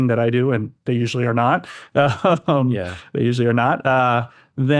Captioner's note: laughs